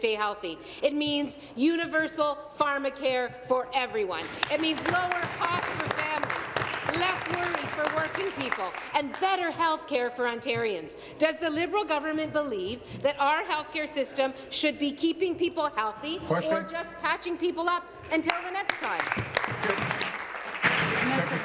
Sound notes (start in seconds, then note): 8.3 applause